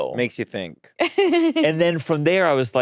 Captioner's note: laughing